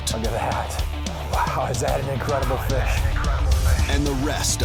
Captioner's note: voiceover; voiceover